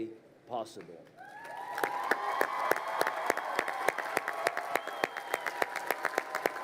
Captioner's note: crowd cheering and applauding